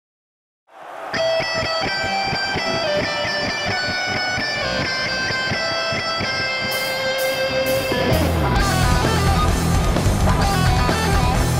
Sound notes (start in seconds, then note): 0.7 crowd cheering; 1.0 guitar solo; 8.0 hard rock music playing